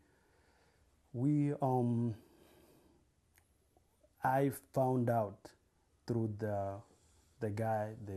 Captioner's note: pauses for 3 seconds